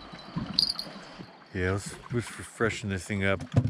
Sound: fish thrashing

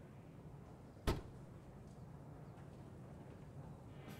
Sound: boot latch clicks

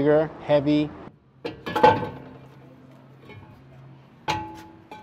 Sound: metal clanking

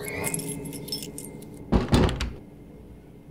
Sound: door shuts

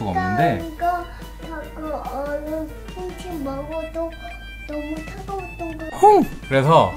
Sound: babbling

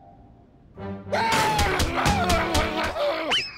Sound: upset growling

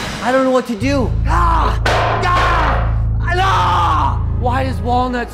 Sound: yelling

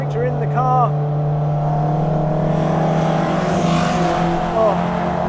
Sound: engine revving

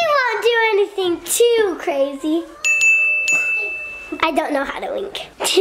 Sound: bell rings; laughs

